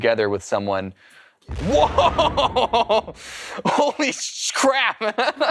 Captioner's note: laughs